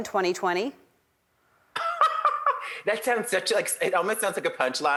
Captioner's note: laughs